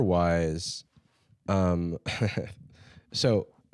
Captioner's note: laughs